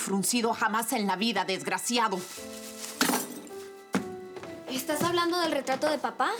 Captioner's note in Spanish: Ruido al tirarlo